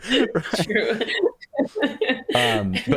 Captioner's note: laughter